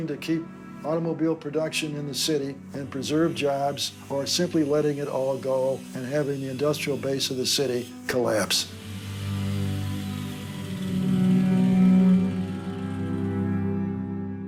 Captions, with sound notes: to keep automobile production in the city and preserve jobs, or simply letting it all go, and have the industrial base of the city collapse. (drill whirring)